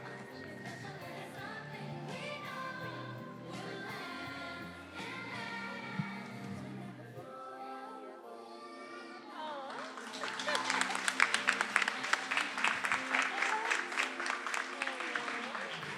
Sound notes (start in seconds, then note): 9.6 attendees applauding; 13.2 gentle music